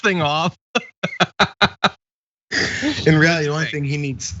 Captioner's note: laugh